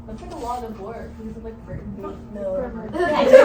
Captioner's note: classroom noises/talk